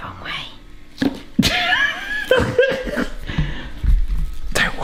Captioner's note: laughs